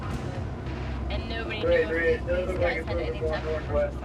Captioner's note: chatter